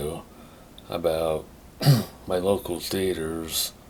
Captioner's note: clears throat